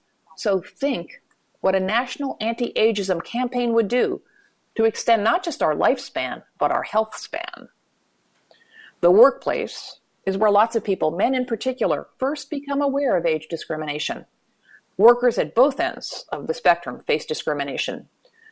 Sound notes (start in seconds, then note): none